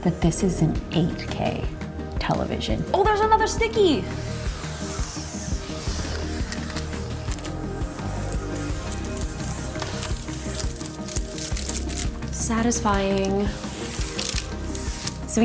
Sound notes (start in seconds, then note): 4.4 upbeat music; 11.4 paper rustling; 13.4 upbeat music